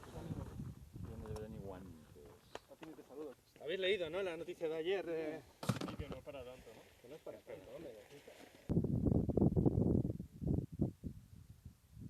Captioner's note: Spanish